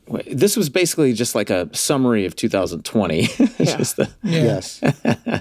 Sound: laughs

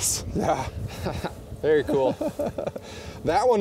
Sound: laughs

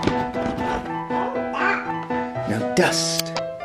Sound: babbles

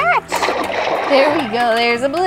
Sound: water splashes

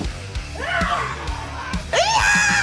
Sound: grunts violently

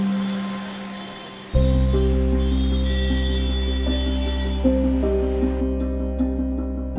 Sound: horn honking; dramatic music

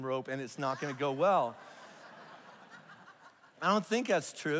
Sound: congregation laughs

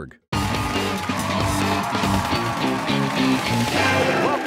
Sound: cheers and applause

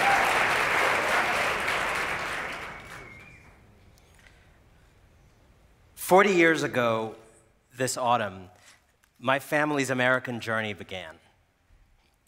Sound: applause

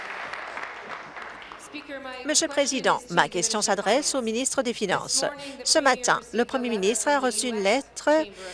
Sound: applause

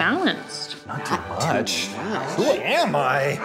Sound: murmuring

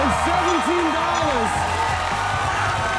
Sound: cheers and applause

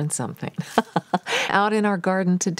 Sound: laughing

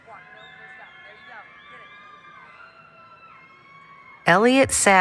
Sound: applause, Cheering

